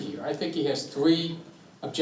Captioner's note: none